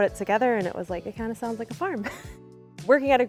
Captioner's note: chuckling